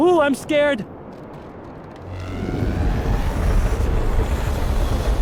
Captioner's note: ship noises